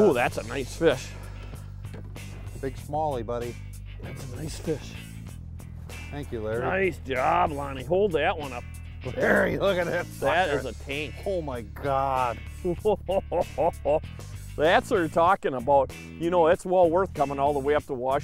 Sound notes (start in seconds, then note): 9.1 growls; 12.6 laughs